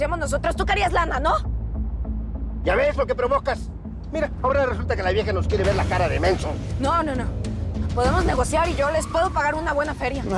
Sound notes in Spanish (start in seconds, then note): none